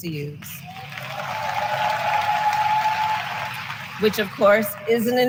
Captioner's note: applause